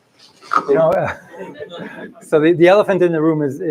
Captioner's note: laughter